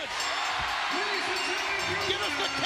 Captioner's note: bell rings